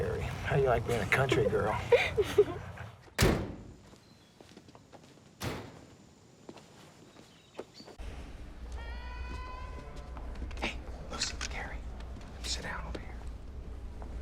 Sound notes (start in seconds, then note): 3.1 door slams; 8.8 woman yelling